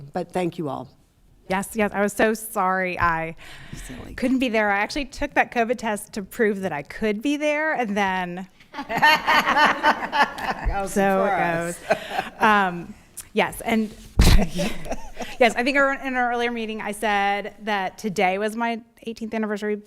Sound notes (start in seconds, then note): 8.7 attendees laughing; 13.4 laughs; 14.2 laughing